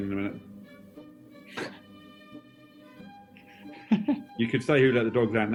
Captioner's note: chuckles